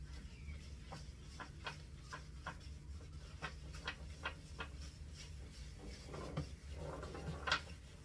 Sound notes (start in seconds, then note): 1.4 cloth scraping quietly against wood